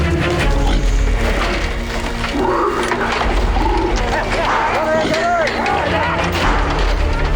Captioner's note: orangutan grunting; men yelling